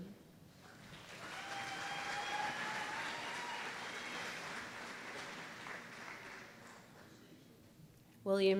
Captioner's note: applause